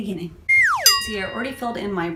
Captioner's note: comedy whistle